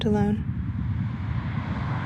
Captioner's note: car rushes past